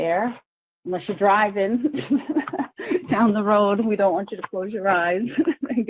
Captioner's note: laughs